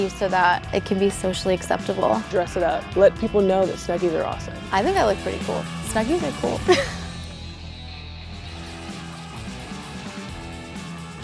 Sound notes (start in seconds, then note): 6.6 laughing; 7.7 rock music